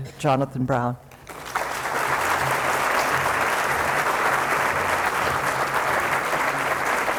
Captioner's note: applause